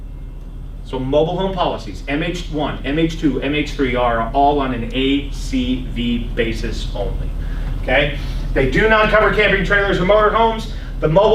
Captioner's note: laughs